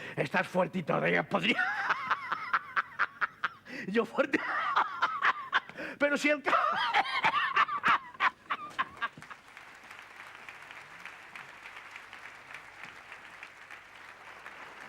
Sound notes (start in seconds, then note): 6.4 laughs and coughs; 8.5 applause